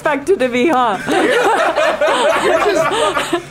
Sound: all laughing

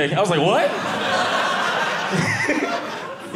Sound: audience laughing

